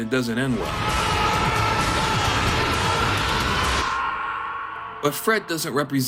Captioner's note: screams